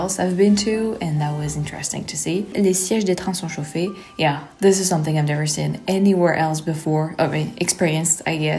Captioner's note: speak French